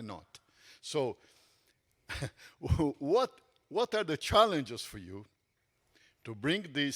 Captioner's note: chuckles